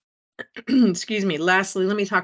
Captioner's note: clears throat